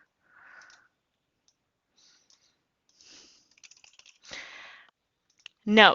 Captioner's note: typing; typing